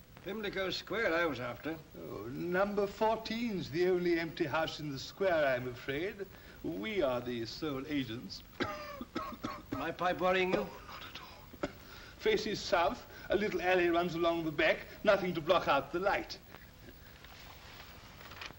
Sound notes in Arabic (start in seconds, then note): 8.5 سعال; 11.8 يشهق بصوت خافت